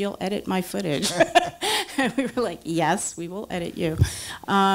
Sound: laughs

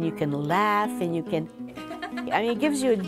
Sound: laughing

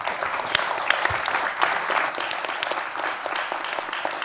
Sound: applause

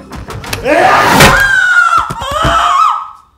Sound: thud

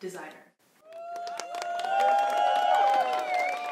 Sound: applause

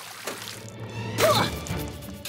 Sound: spits; gasps

